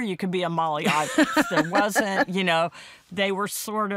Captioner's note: laughs